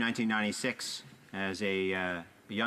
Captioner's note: speaking alternate language